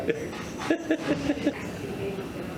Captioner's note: more giggling